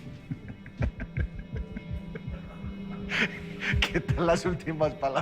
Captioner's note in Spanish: Risas